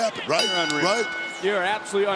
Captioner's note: bell ringing